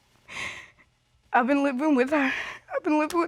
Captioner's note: sobs